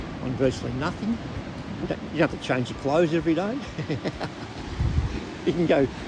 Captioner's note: laughs